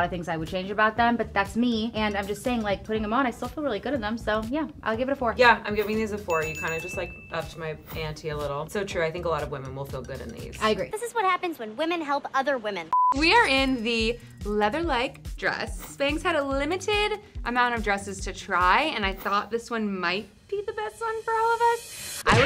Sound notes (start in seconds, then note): 5.8 bell dinging; 12.9 beep